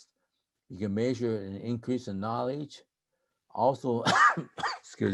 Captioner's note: coughing